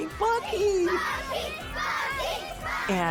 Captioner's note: kids chanting "Bucky!"